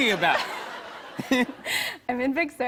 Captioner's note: laughter